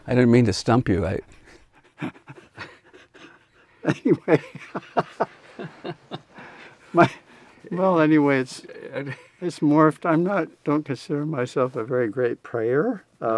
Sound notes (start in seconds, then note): 3.8 laughs; 5.8 both laughing